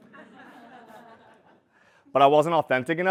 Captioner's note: laugh